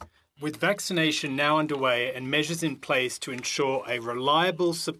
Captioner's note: speaking French